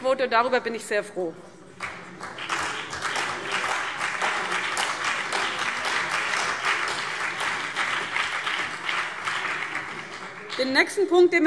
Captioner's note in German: Beifall CDU und BÜNDNIS 90/DIE GRÜNEN